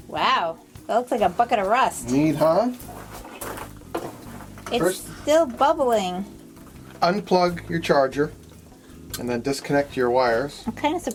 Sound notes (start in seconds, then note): 2.0 metal scraping